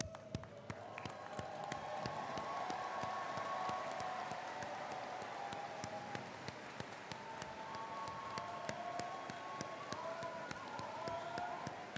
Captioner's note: applause